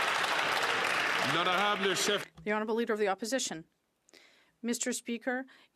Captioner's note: some Applause